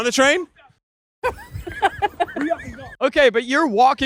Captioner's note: laughing